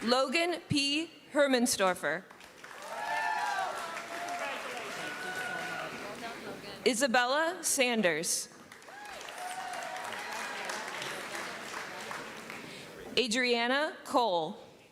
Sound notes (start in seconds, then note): 2.6 cheering; 8.6 applause